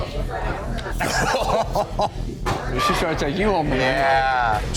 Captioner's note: laughs